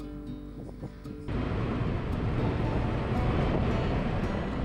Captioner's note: wind blowing